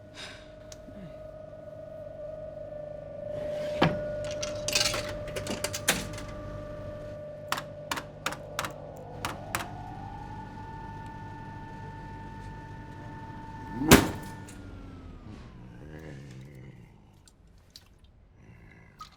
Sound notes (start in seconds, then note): 3.2 clicking; 13.5 banging machine, machine turns off